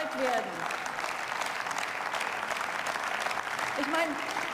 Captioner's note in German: Beifall